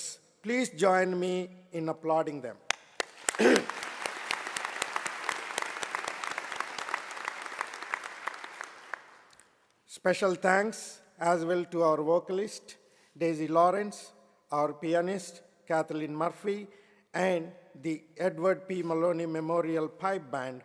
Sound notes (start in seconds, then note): 2.6 applause